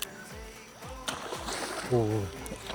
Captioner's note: water splashing nearby